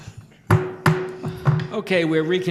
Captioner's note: gavel striking